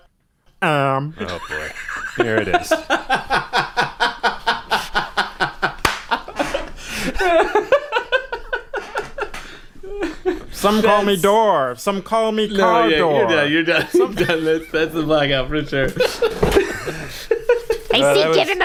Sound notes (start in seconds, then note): 6.6 laughter; 8.1 clap